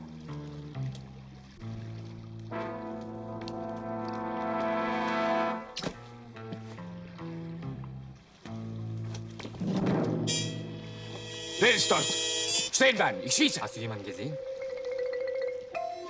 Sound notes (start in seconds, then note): 12.5 in German; 14.1 in German